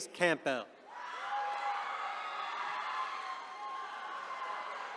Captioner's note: attendees cheering